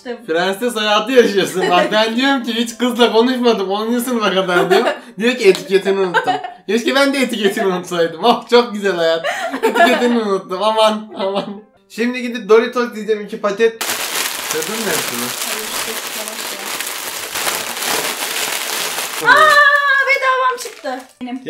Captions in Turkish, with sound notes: Prenses hayatı yaşıyorsun bak ben diyom ki hiç kızla konuşmadım onuncu sınıfa kadar diyom haıhıh Diyo ki etketini unuttum hahahhaa Keşke ben de etiketimi unutsaydım oh çok güzel hayat hahha Etiketimi unuttum aman aman Şimdi gidip doritos yiycem iki paket (hışırtılar) Aaaaa bedavam çıktı benim